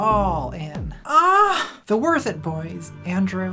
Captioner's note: moan